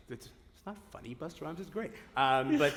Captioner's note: laughter